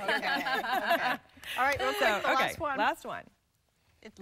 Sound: laughter

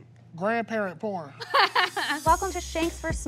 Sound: laughing

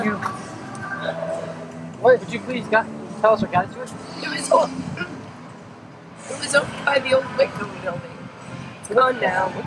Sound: chokes

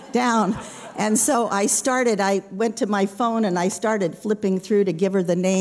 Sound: laughter

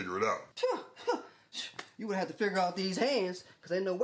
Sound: laughs

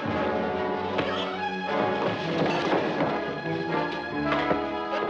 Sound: punches thudding

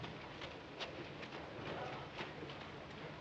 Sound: none

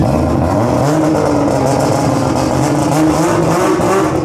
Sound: car engine starting

